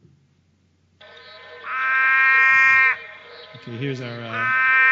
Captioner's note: sounds of Long-footed Frog calling